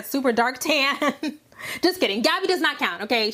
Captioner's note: chuckling